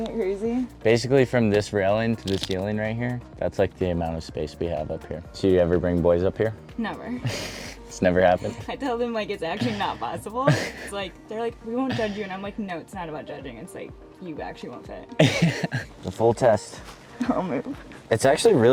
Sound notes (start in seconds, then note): 9.6 chuckles; 15.2 laughs